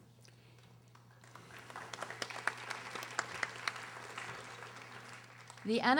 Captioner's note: audience applauding